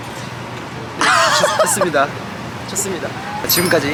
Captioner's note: hahaha